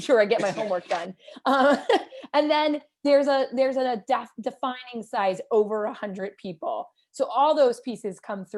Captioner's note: laughter